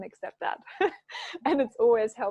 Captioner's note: chuckling